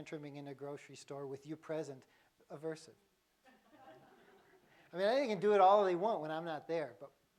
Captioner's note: laughter